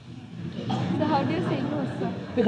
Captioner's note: laughter